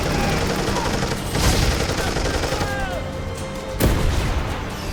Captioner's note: artillery blasting